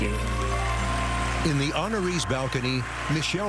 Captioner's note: cheering and applause; song ends